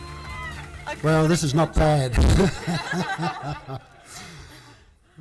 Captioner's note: laughs